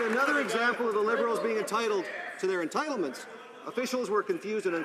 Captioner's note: some Applause